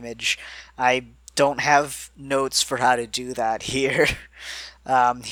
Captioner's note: laughs